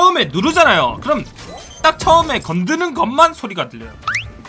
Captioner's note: defuse sound